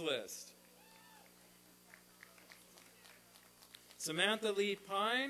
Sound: applause and cheering

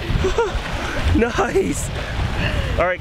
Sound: laughing

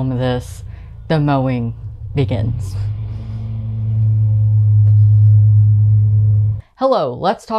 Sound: lawn mower noises

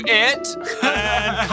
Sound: laughs

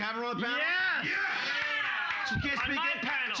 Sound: audience members cheering

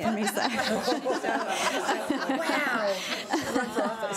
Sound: laughing

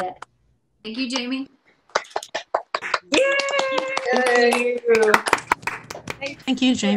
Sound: applause & cheering

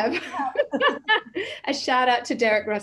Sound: laughs

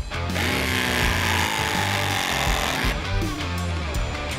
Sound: tool whirring

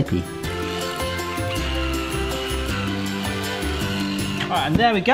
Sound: electric whisk whisking

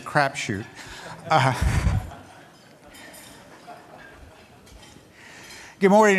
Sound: laughter

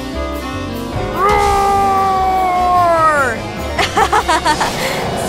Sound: laughing

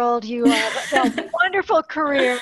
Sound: laughter

